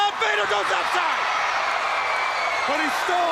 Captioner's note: crowd cheering